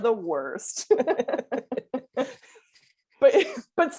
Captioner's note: laughing